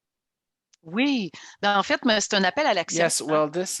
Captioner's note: speaking French